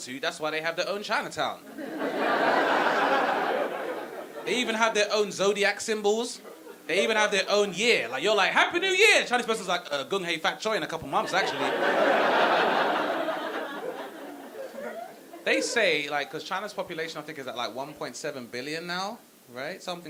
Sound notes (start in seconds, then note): 1.7 audience laughing; 11.1 audience laughing